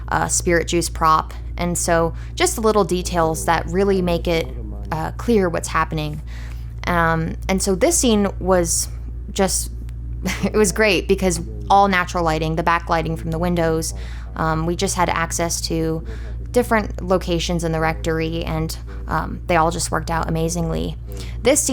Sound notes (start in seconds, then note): 10.2 speaker laughs